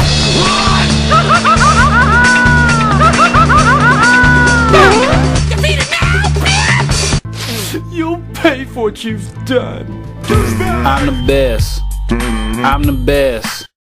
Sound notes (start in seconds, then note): 0.8 ahahahaha!!; 7.3 sniff